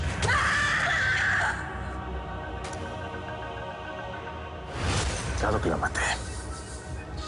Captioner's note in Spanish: Gritos